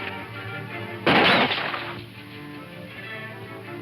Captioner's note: gunshots